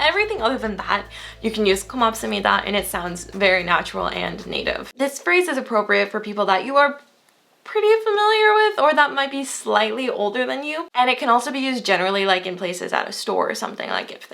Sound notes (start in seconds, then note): 1.8 foreign language